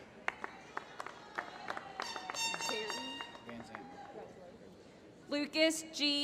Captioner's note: applause